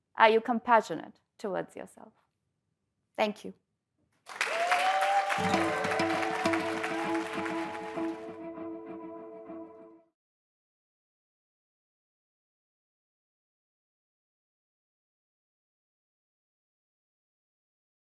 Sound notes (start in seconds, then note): 4.2 applause